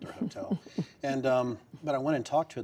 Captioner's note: laughter